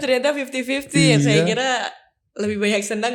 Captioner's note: laughs